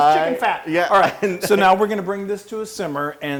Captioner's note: laugh